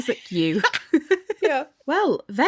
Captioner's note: laughing